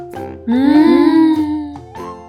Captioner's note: disappointed sigh